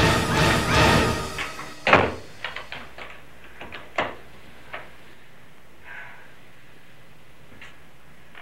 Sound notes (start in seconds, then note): 1.6 music stops; 5.8 exhales